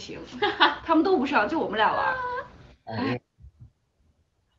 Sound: sigh

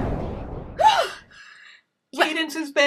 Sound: gasps

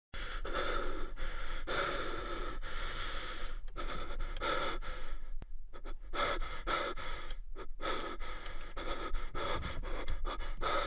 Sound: breathing

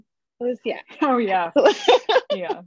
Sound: chuckles

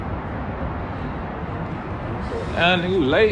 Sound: traffic roaring

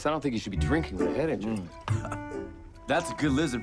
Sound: laughs

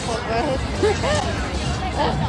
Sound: laughing

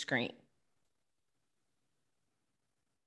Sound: silence

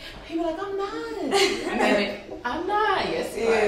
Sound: laughs

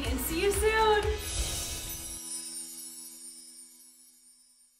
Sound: chimes tinkling

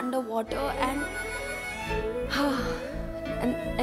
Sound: exhales deeply

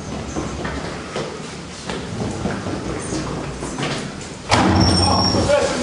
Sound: footsteps on stairs

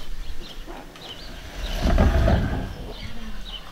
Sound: furniture scraping

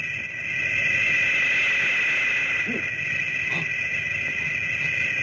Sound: man speaking foreign language; Gammera whirring

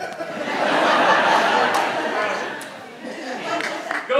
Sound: audience laughs

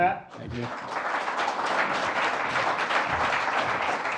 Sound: applause

